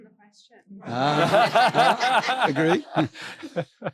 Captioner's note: laughing